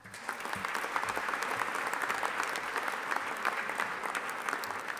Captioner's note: audience applauding